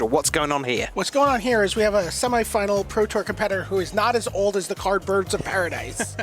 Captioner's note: laughter